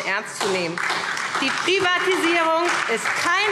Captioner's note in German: Beifall SPD und DIE LINKE